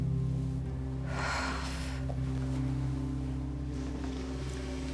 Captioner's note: sigh